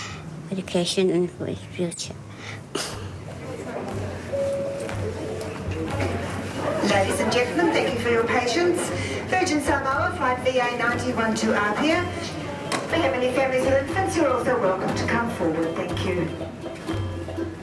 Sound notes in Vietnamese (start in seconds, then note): 6.8 Tiếng nhân viên sân bay thông báo